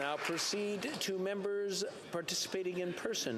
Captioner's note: cheering/Applause